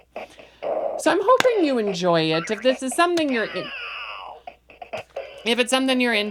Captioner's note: loses, the toy goes "awww"